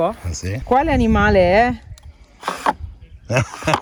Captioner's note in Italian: Risate